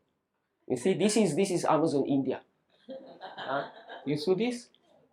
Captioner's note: audience laughs